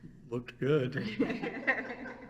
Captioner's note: all laugh